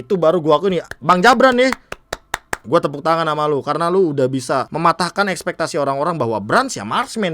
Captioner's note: claps